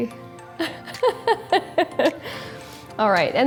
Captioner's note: laughs